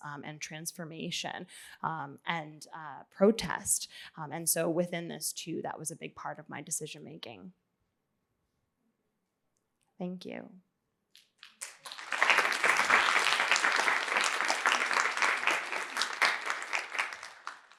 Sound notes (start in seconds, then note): 11.4 applause